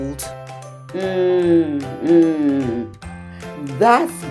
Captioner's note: murmurs agreement